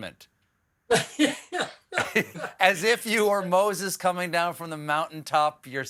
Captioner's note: laughs